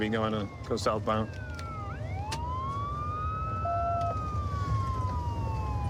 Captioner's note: sirens wailing